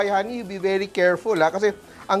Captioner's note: sizzles